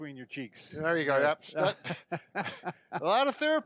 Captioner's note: laughing